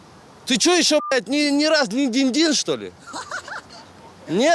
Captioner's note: boys in the back laugh